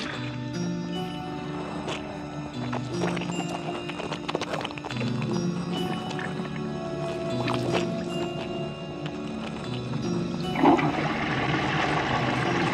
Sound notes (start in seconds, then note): 2.9 squelching; 10.5 flushes